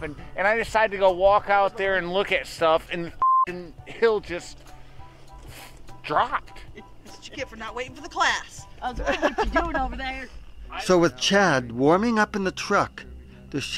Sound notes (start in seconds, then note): 3.2 beep